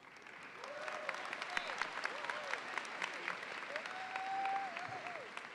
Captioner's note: audience applauds and cheers